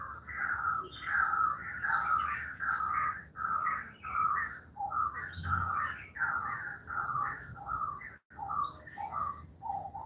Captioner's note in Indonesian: Suara burung